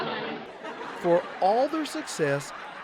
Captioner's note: laughter